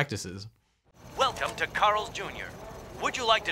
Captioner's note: automated Voice